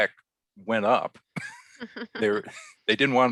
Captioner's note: both laugh